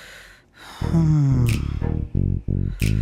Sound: Nandan sighs

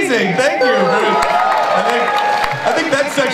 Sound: audience cheers

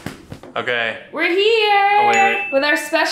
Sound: bell dinging

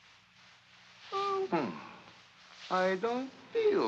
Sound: mocking

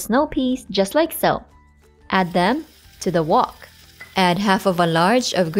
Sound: oil sizzling

